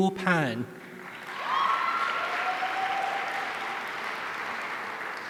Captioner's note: audience cheering